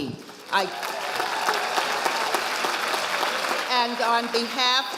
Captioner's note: audience applauding